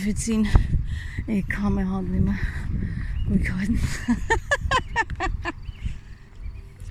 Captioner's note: laughter